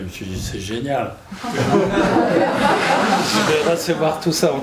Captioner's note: laughter